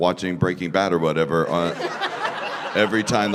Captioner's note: laughter